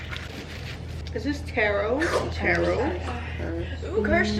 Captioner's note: slurping